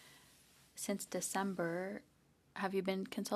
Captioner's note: speaking French